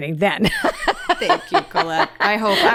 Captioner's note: laughs